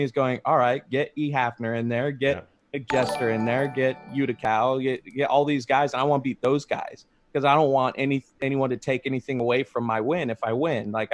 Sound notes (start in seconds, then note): 2.8 graphic chiming